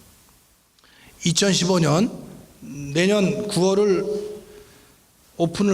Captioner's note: speaking in foreign language